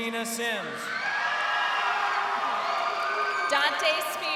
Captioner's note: crowd cheering